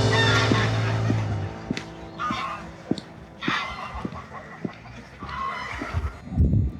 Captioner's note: geese Honking